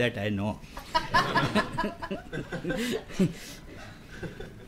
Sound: laughter

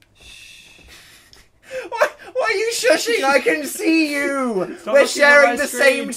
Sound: laughs

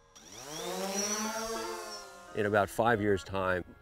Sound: drone whirs

